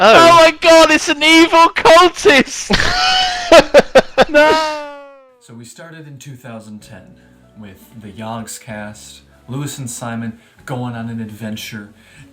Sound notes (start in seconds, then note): 4.4 wheezes